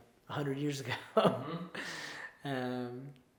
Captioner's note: chuckles